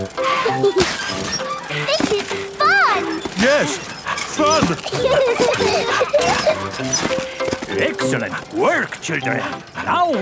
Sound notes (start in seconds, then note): 0.1 mummy and daddy pig panting; 0.1 peppa and george laughing; 3.6 straining; 5.2 peppa and george laughing